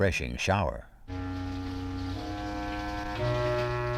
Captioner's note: water running